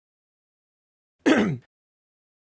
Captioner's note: coughs